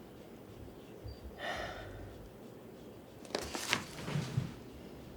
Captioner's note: Norma sighs